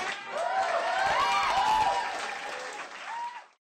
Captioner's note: clapping and Cheering